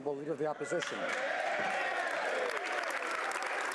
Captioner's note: speaking French